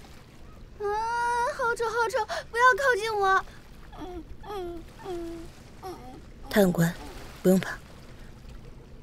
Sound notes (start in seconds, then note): 3.9 sobbing